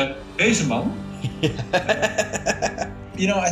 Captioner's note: laughing